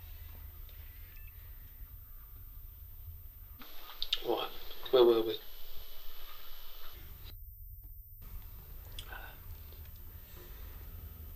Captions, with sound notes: (camera beeps) All right, where were we?